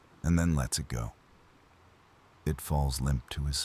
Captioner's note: wind Blowing; wind Blowing